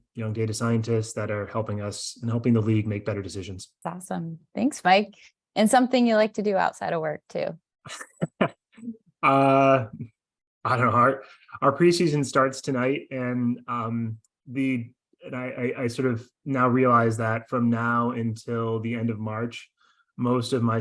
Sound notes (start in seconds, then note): 8.0 laughs